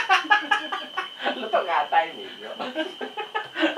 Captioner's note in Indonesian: ketawa monyet